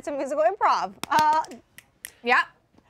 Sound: clapping

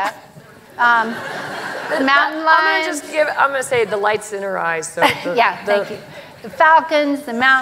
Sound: laughter

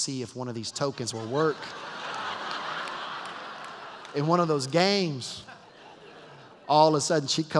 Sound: laughter

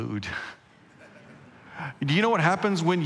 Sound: congregation laughing

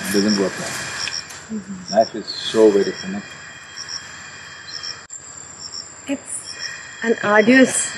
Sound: Sadhguru laughs

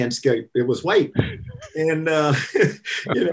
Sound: laughter

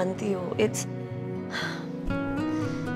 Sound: sighs

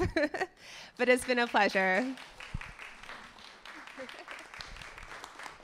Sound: audience claps

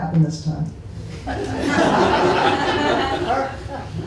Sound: laughter

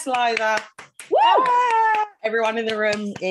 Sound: claps continuously

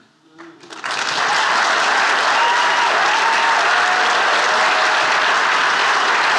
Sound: attendees applauding and cheering

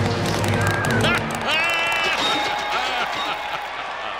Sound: laughing

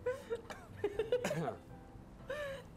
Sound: cough; laughing

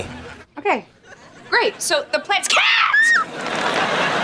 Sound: screaming

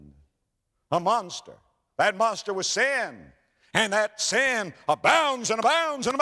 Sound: slap

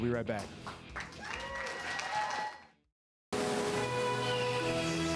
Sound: applause and cheers

